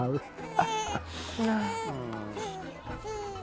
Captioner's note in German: Baby quengelt